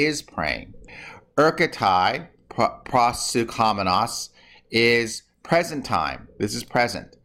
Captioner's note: speaking greek